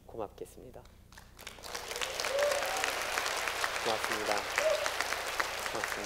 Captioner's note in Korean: 박수